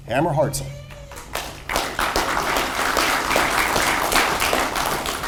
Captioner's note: audience applauds